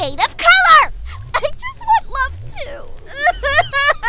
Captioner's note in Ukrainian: Плаче